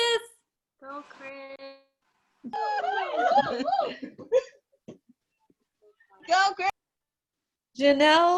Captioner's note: cheering